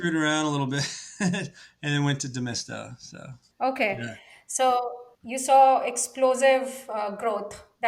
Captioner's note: laughs